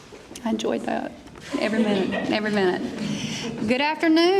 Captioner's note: laughter